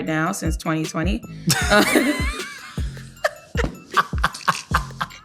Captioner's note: laughter